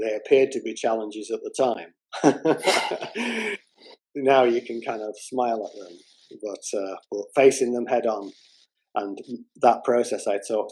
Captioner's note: laughter